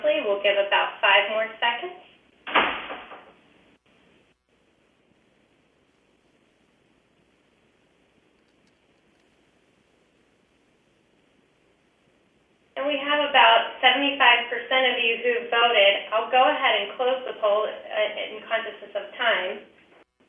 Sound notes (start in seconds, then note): 2.2 pause; 20.0 pause